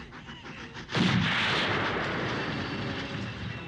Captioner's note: gun fires